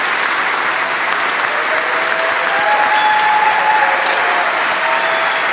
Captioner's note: audience cheering